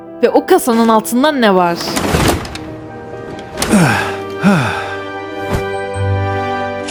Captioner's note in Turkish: iç çeker